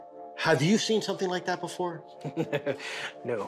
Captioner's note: laughs